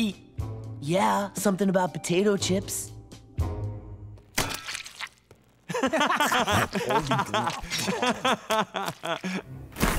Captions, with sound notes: Yeah, something about potato chips. [laughing]